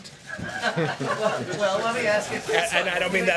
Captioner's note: laughter